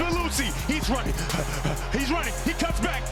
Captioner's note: panting